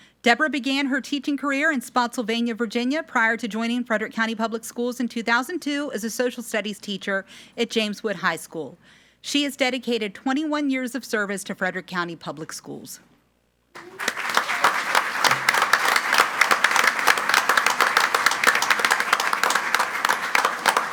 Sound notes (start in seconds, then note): 13.7 group applauding